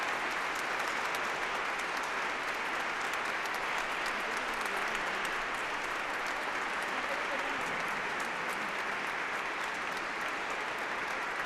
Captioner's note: applause